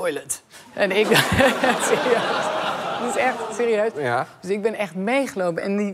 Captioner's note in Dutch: gelach